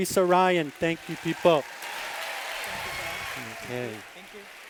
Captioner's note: applause